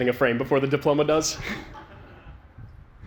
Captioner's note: laughter